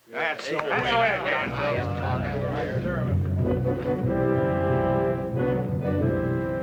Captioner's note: men chatter; moody orchestral music